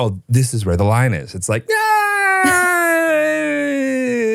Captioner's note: hesitates